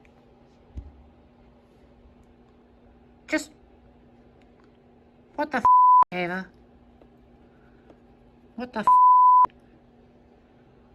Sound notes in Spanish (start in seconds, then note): 4.4 bip; 8.8 pitido